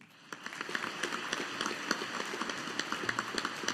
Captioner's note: audience applauding